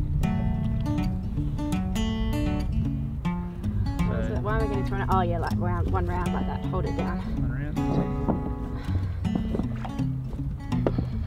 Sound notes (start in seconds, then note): 7.7 mumbles